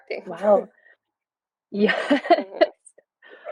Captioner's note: giggles